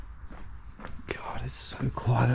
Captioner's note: footsteps thumping